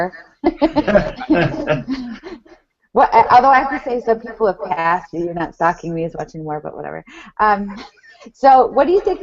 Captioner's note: laughing